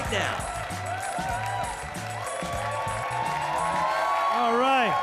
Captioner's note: audience cheering